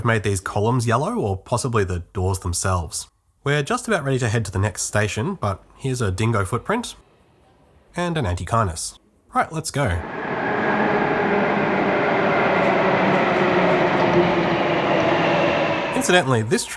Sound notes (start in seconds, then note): 9.9 HCMT approaching noises; 14.0 HCMT arriving noises